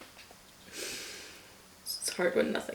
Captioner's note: inhales heavily